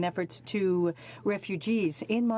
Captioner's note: speaking French